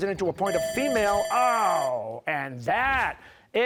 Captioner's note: bell ringing